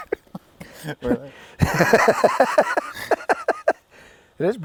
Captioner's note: man laughs